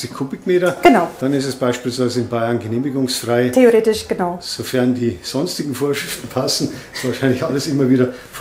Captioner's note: slight laughter